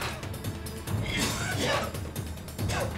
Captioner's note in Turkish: Öksürme sesi